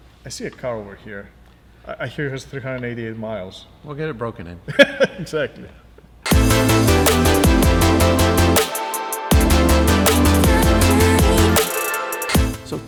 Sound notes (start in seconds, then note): 4.7 laughs; 6.2 techno pop music